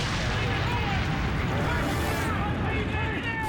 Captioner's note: bridge exploding; fire exploding